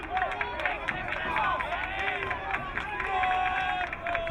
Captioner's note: crowd cheering